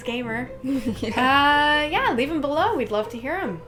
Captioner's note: laughing